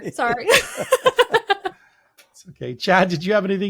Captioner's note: all laughing